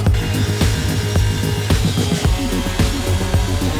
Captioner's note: saw buzzing